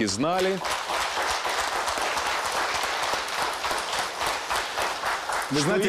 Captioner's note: applause